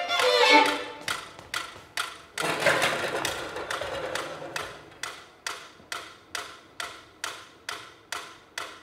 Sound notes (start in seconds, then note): 0.0 metronome ticking